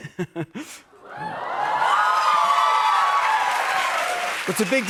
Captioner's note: cheers and applause